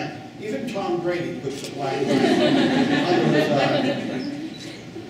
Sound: laughing

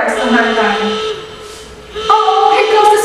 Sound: alarm-superbugs attack

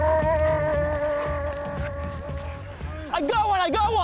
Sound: man puffs

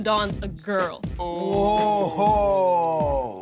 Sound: ooooooh!

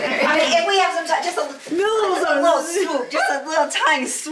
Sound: murmurs

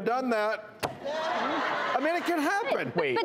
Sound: audience laughs

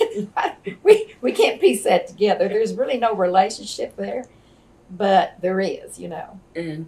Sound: laughter

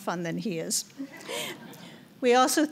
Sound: laugh

